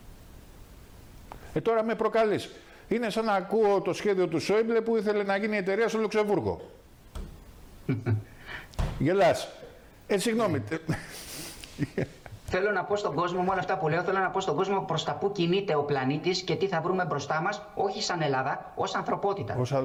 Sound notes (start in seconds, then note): 10.5 laughter